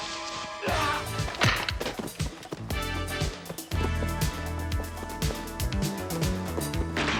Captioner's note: man yelling; dramatic music